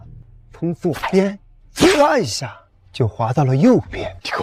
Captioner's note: swoosh